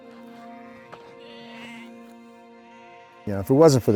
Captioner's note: sheep calling